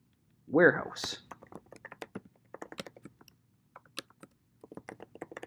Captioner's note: keyboard clicking